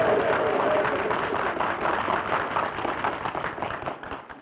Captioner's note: applause